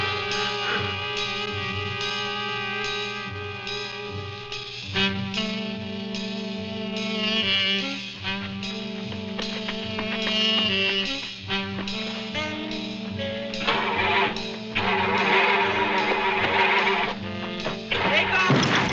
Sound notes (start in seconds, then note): 14.7 car engine sputtering